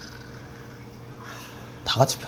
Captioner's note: exhaling